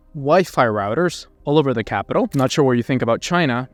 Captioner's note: camera clicking